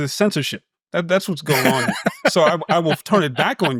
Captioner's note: laughs